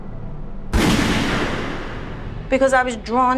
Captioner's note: gunshot